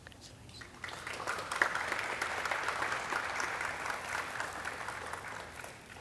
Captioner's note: audience cheering and clapping